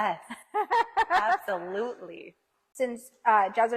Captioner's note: laughs